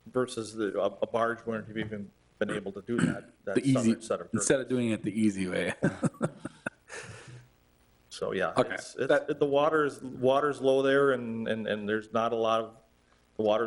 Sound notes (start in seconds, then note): 5.6 chuckling